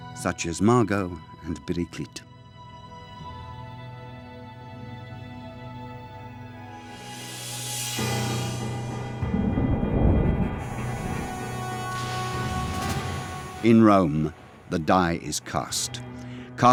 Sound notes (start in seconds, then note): 2.7 gentle music; 7.8 threatening music; 8.2 thunder rolling